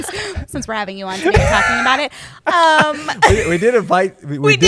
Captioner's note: laughter